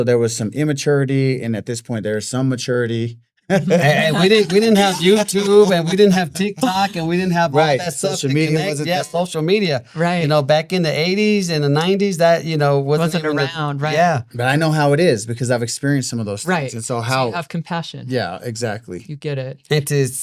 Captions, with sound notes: And also there was some immaturity. And at this point, there was some maturity. (laughing) We didn't have YouTube, and we didn't have TikTok, and we didn't have social media. Social media, yeah, social media. Right. You know, back in the 80s and the 90s, that, you know, wasn't even a- It wasn't even my own, right? Yeah, but I know how it is because I've experienced some of those things. Right. And so how- So you have compassion. Yeah, exactly. You get it.